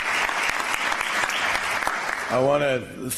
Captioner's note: applause